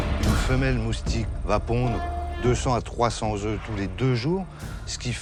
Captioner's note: speaks in foreign language